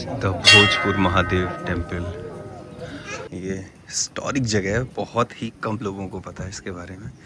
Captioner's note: bells clanging